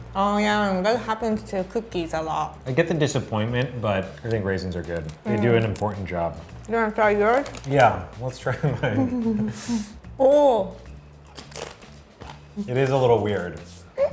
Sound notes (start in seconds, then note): 8.7 laughing; 11.2 chewing